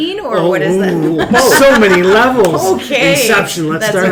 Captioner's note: laughs